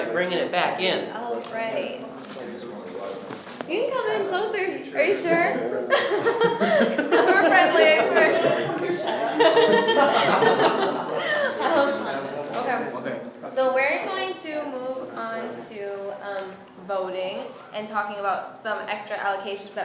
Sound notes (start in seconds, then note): 10.8 laughs